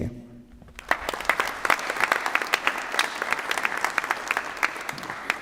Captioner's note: applause